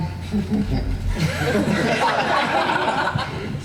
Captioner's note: laughing